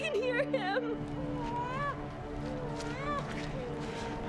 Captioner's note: baby crying